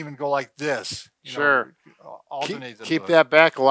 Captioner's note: murmurs